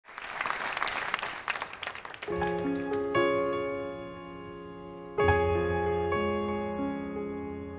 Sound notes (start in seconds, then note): 0.0 audience clapping; 2.2 tranquil piano music